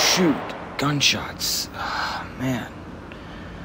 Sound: sighs

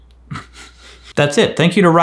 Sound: laughs

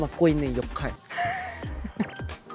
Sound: laughs

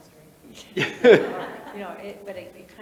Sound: panelists laughing

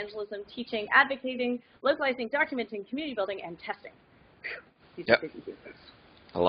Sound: whew

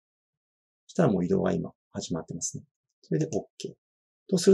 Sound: click

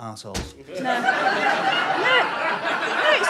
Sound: audience laughter

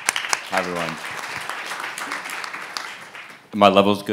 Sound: audience clapping

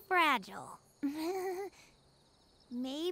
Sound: chuckles awkwardly

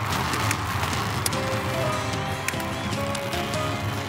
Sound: seat belts clicking

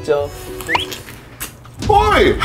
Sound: slurp slurp

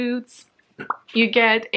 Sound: mouth pop

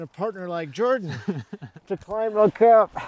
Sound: laughs

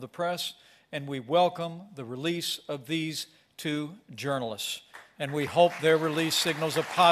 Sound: applause

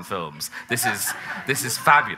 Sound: audience laughing

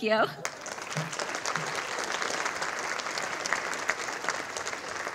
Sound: audience applauding

